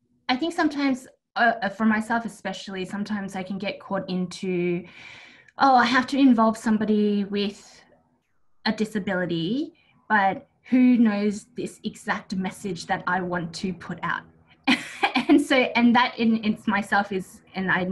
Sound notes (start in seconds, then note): 14.7 laughs